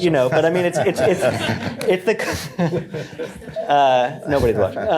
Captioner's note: laughter